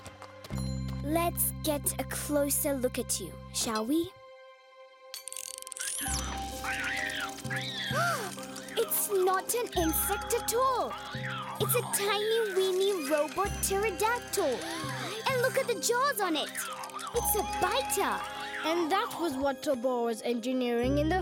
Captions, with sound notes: Let's get a closer look at you, shall we? (screeching) (Sema gasps) It's not an insect at all! It's a tiny, weeny robot pterodactyl! And look at the jaws on it! It's a biter! - And that was what Tobor was engineering in the field!